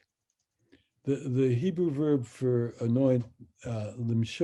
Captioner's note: speaks in Hebrew